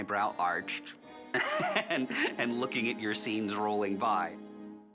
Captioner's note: chuckles